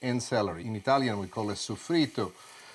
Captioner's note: sizzling